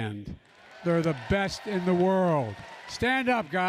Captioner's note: applause